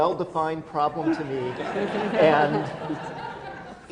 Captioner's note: laughter